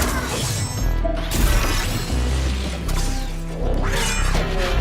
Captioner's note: gunshots